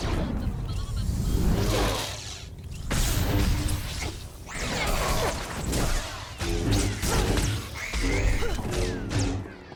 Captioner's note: gunshots